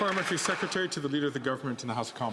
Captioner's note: some Applause